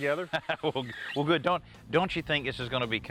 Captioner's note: laughs